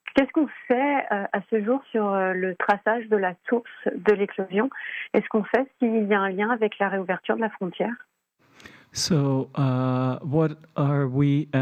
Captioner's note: speaking French